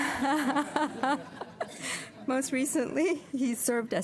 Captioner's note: laughter